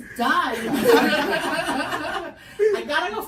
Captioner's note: everyone laughs